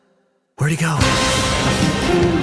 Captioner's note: thunder booms